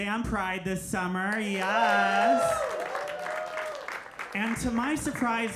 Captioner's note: audience cheering